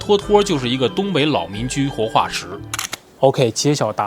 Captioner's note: manchu